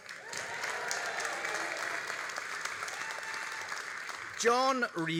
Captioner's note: all applauding and cheering